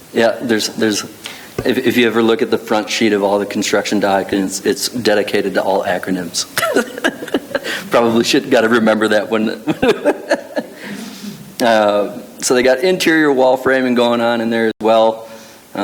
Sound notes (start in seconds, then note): 6.5 laughs